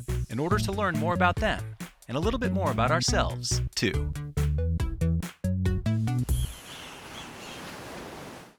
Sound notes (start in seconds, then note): 4.8 playful music; 6.3 birds chirping; 6.5 waves crashing